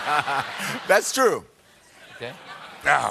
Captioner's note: laughter